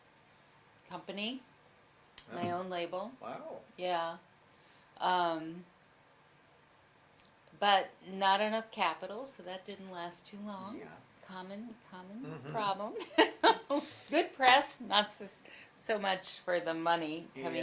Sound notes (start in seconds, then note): 12.2 laughs